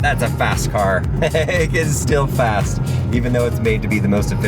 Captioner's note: laughs